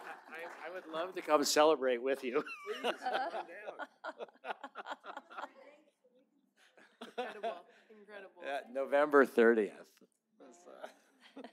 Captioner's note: laughter; laughter